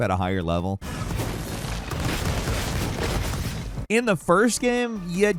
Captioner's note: bomb exploding; gun firing